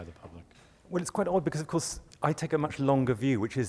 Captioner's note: voiceover